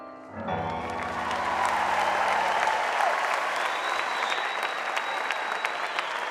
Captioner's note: audience applauding and cheering